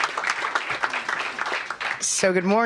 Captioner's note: applause